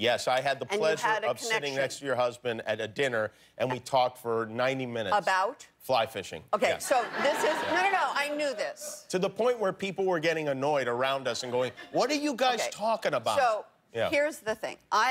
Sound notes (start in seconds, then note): 6.8 laughter